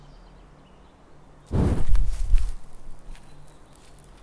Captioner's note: the woosh and crackle of a fire starting